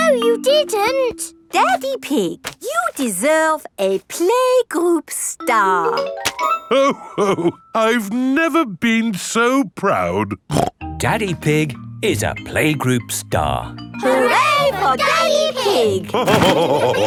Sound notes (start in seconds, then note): 10.5 snorts; 16.1 all laughing